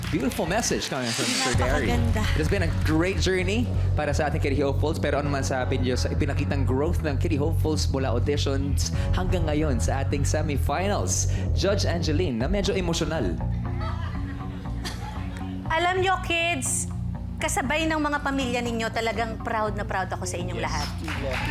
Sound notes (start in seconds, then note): 14.8 clears throat